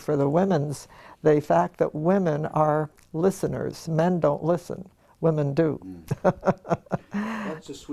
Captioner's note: laugh